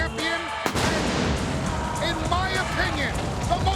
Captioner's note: fireworks popping